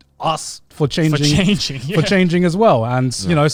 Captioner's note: laughs